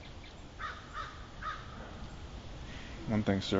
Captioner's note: bird calling